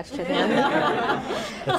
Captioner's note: laughter